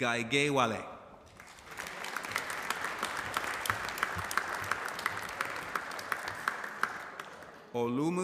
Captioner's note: applause